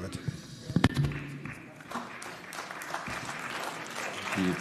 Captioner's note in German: Beifall